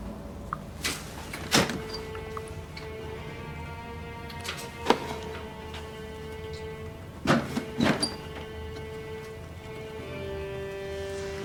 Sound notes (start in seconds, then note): 1.9 dark music continues; 7.4 door clangs